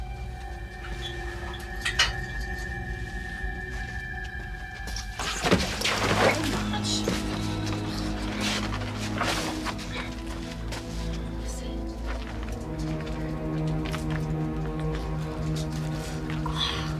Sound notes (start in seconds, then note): 5.2 Martin thudding to floor; 12.7 soft tense orchestral music